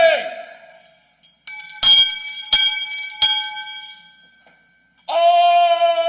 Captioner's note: bell Ringing